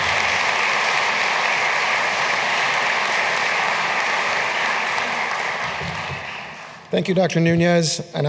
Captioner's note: applause